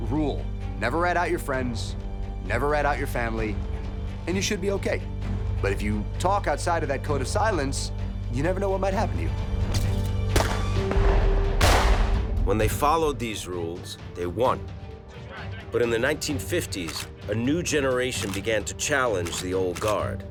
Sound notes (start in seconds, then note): 10.3 gunshots ringing